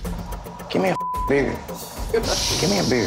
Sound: beeping

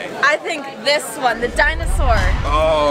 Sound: dramatic bang

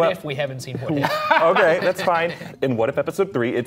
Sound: chuckling

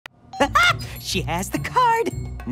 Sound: laughs

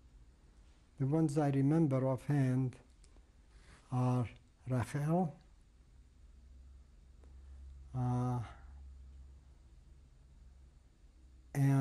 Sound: pauses for 7 seconds

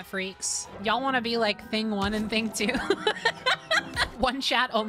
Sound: laughter

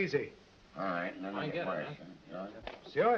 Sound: all chattering

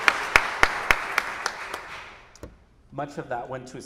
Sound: audience applauding

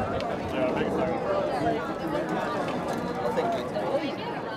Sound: crowd chatters

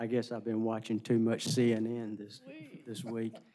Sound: laughter

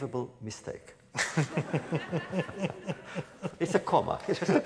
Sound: laughter

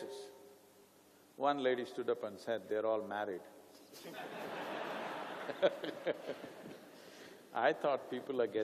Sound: laughter

